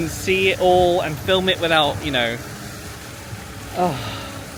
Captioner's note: sighs